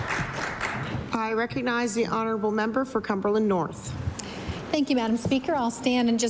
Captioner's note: applause